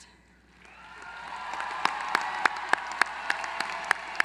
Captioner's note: applause